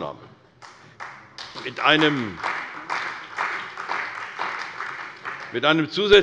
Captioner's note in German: Beifall bei der CDU und dem BÜNDNIS 90/DIE GRÜNEN